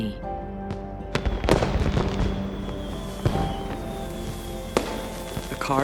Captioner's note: fireworks exploding